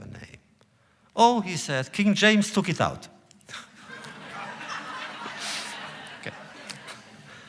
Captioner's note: laughter